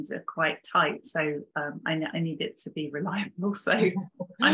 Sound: chuckling

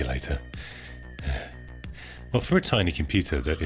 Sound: sighing

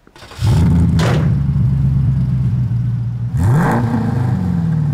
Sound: engine rumbles

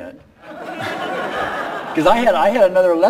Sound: laughing

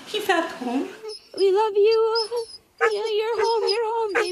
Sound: dog whining happily

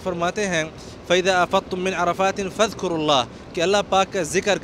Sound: Reciting al Quran

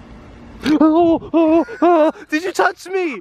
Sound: loud panicking yelling

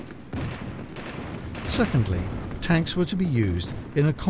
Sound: guns bang

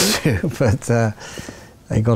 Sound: laughs

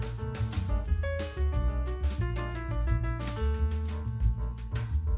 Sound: none

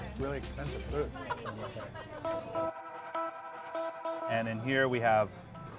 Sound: laughter

